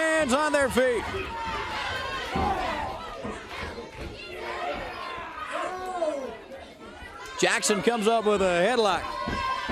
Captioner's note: crowd chatter